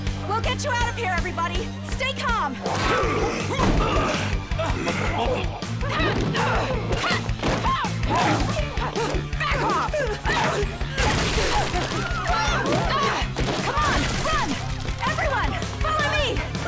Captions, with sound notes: We'll get you out of here, everybody. Stay calm. [Rocky groans] [Kat grunting] Back off! Come on. Run. Everyone, follow me.